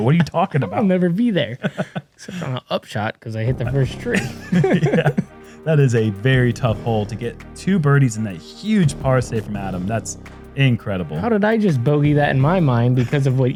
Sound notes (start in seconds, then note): 4.0 laughter; 4.0 laughs